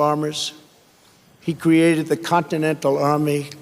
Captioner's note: none